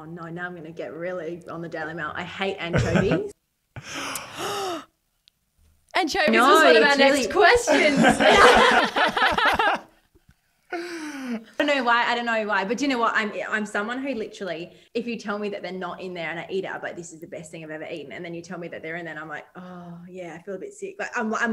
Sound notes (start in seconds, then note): 3.8 gasp; 7.6 all laugh